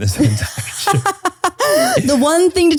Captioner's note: laughs